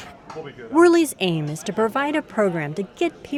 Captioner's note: voiceover